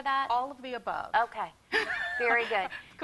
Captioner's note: laughs